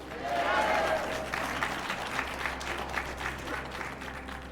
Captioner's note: audience clapping